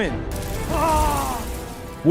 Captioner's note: painful wailing